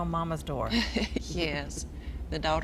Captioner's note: laughing